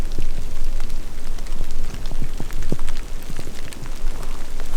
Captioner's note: downpour pattering